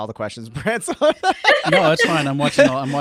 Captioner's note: laughing